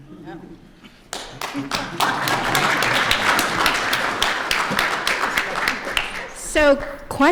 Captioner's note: applause